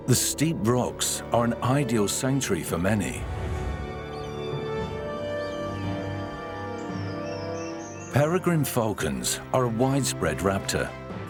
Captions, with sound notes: The steep rocks are an ideal sanctuary for many. [bird screeches] Peregrine falcons are a widespread raptor.